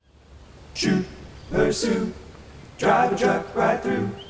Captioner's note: ocean rushing